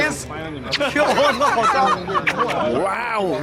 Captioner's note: laughs